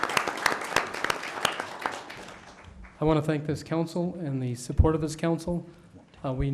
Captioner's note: applause